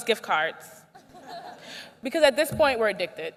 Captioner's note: laughter